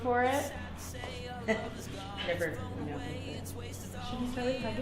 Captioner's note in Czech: nervózní smích